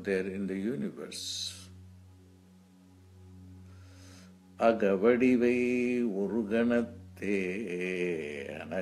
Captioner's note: chants in Tamil